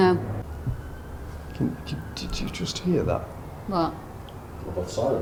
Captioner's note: faint thudding